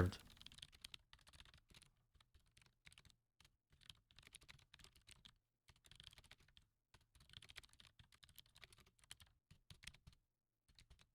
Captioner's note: typing